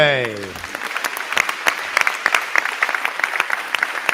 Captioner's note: crowd clapping